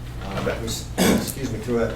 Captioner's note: clears throat